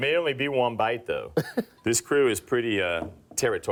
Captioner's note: laughs